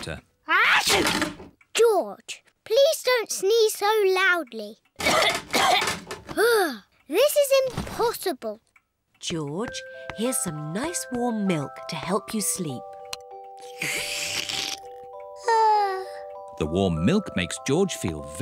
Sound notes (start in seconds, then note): 3.2 coughs; 13.6 yawns